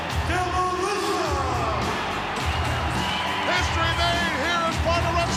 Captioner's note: crowd cheering